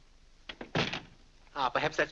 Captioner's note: door closes